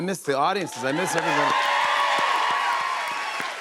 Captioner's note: cheers and applause